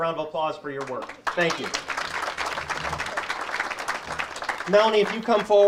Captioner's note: audience applauds